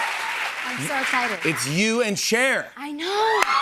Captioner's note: audience cheers